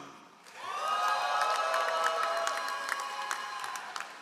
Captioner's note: all applauding